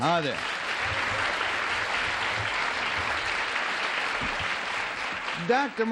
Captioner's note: applause